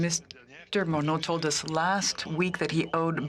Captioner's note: speaking French